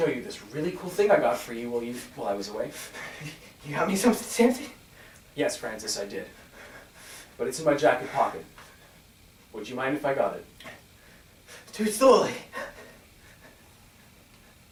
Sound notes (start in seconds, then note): 12.5 heavy breathing